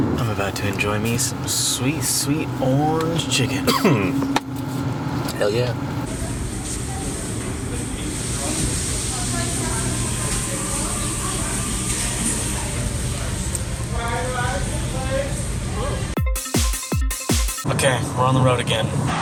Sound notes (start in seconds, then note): 3.4 coughs; 6.1 background talking; 16.1 fast-paced transition music